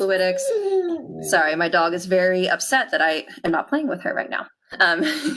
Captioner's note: dog Whines